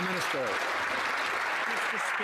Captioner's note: some Applause